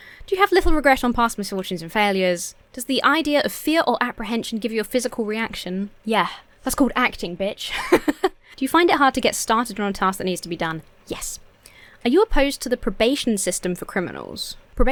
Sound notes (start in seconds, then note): 0.0 hums uncertainly; 7.6 laughs